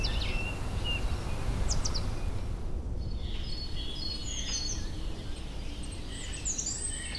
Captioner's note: birds chirping; birds chirping